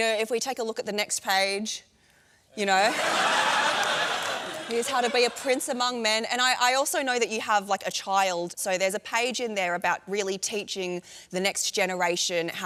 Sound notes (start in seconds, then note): 2.8 laughter